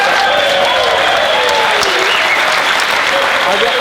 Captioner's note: applauding